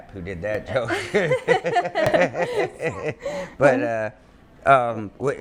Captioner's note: people laughing